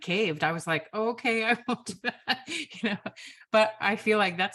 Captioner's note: laughs